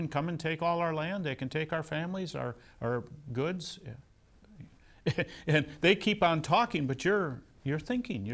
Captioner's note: laughs